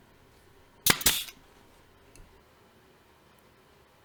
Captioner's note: nail gun thuds